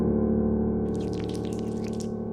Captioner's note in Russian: склизкий звук